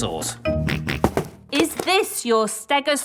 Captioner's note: snorts